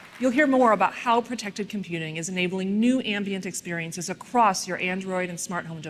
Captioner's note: applause